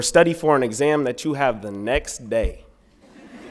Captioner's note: laughter